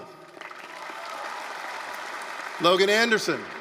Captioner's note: applause, cheering